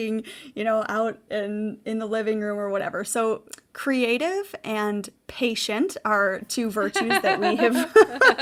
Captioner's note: laughing